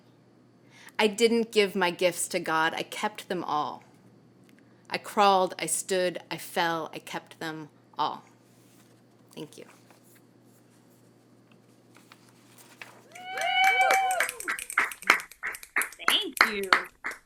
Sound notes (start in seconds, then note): 11.9 applause